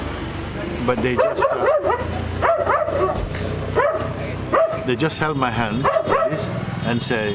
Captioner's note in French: aboiement d'un chien